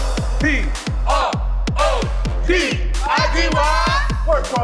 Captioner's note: chanting